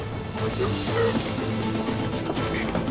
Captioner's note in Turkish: Bağırma sesleri